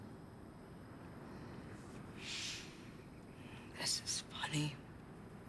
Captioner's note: breathes deeply